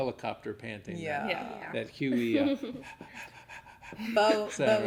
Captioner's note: panting noise